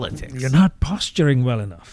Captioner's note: uh